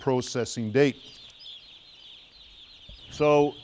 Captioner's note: chicks chirping